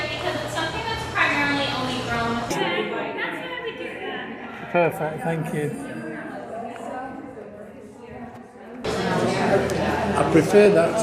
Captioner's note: chatter